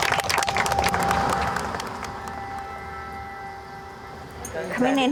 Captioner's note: group applauding; vehicle whirring